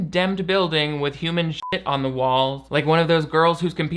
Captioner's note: beep